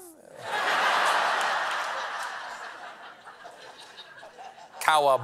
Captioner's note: booing